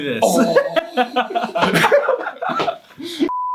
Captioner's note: laughs